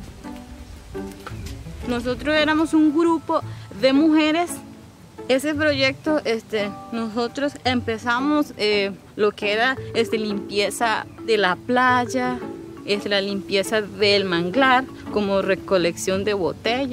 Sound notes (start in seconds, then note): 2.0 speaking Spanish